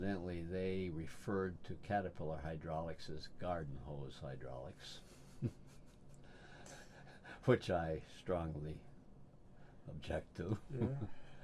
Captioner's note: laughs